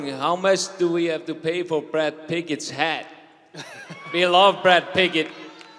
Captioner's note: cheers and applause